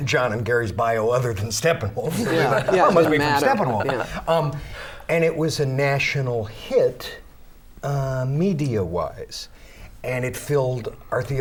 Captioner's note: laughter